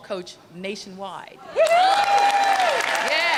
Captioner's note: applause